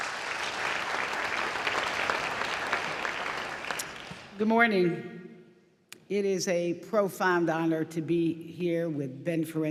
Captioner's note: applause